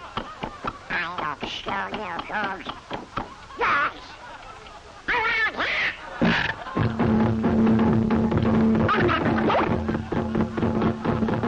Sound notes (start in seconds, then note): 5.2 he slams the clock against the wall